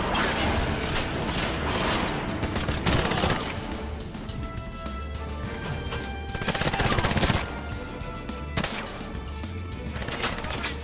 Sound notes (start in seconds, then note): 3.9 adventurous music; 6.5 bullets popping